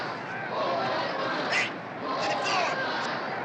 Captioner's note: referee shouting